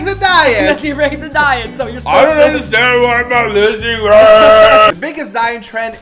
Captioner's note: roars